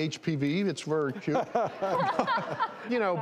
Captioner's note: laughing